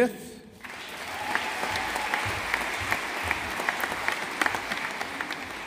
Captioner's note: audience applauding